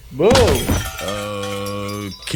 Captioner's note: crashing dishes